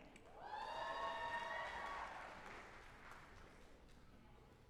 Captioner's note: audience applauding